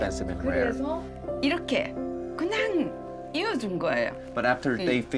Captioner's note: speaking Korean